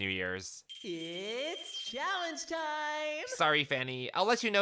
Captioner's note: bell ringing